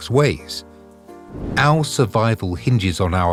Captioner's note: air whooshing